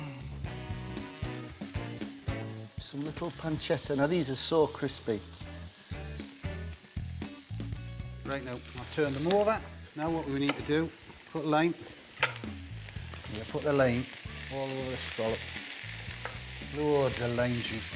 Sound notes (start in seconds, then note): 0.0 upbeat music; 5.5 scallops sizzling; 15.3 scallops sizzling